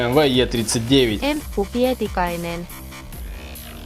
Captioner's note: speaks Finnish